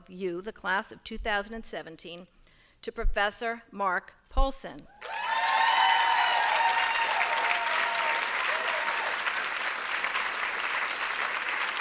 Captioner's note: applause